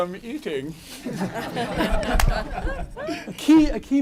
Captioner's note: laughter